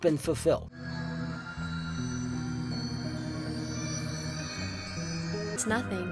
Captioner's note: twinkling glass resonance sound